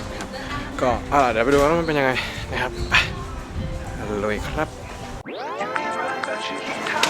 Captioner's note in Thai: ปรบมือ